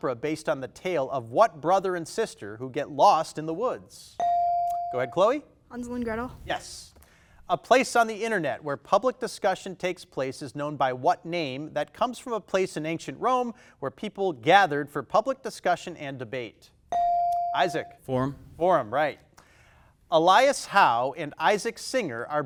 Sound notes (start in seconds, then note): 4.1 buzzer dings; 17.0 buzzer dings